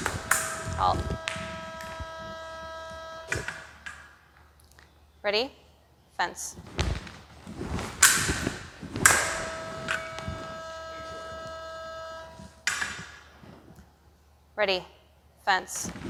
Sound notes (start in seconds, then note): 9.0 clicking